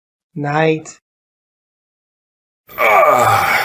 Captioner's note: groans